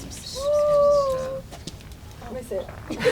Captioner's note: bird noise; laughter